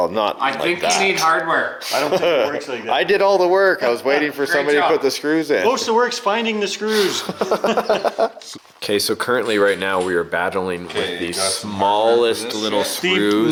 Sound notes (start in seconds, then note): 6.9 laughing